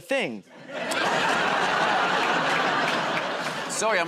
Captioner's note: laughter